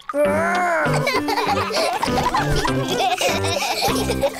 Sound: all laughing

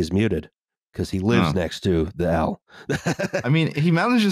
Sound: laughs

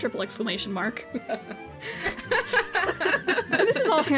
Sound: all laugh

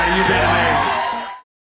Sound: audience cheering

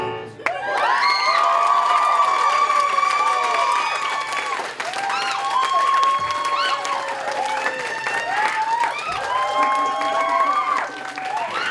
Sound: applause

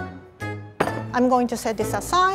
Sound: drops pan

